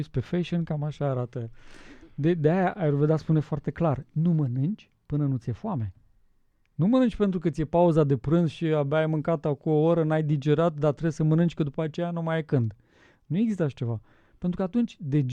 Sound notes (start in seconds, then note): none